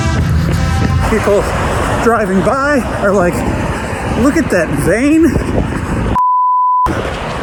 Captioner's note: beep